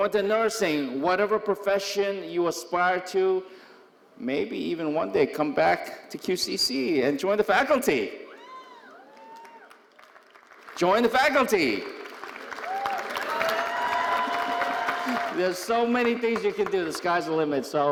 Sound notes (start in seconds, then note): 12.7 audience cheering and applauding